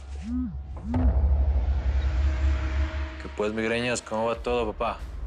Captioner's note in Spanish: Vibra el celular